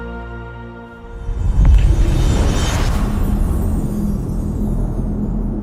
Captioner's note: dramatic sound